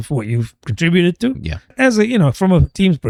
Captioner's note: uh